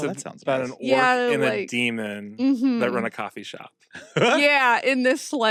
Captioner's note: chuckles